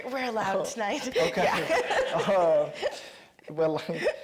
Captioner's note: chuckles